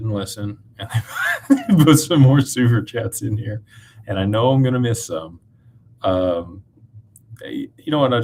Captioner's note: laughter